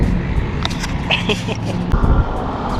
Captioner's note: laugh